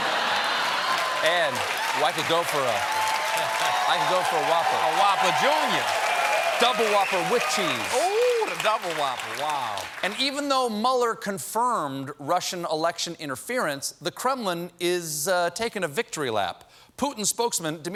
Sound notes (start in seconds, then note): 5.0 cheers and applause